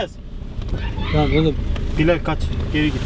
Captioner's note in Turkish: bağirma sesi̇